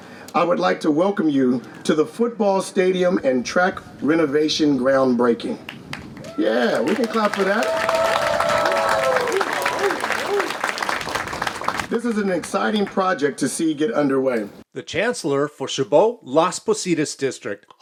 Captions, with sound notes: I would like to welcome you to the football stadium and track renovation groundbreaking. Yeah, we can clap for that. (crowd cheering) This is an exciting project to see get underway. - The chancellor for Chabot Las Posidas District